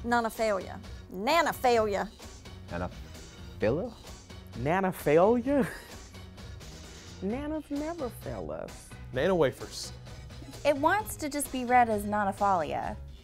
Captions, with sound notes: - Nah-na-falia Nana-falia. - Nah-nuh-filla? - Nana-falia? (laughs) Nanas never fail us. - Nana wafers. - It wants to be read as just nah-nah-falia.